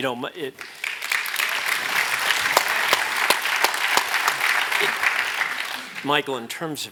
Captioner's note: applause